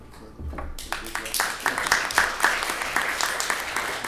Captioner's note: applauding